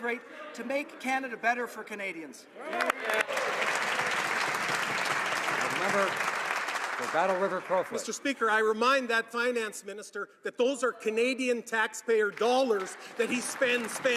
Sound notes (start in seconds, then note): 5.8 some Applause